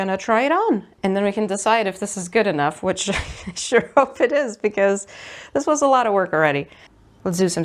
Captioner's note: laughs